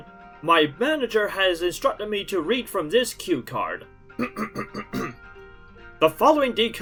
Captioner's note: clears throat